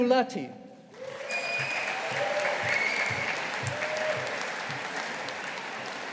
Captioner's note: audience applauding